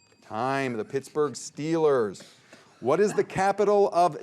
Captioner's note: bell dinging; players chuckling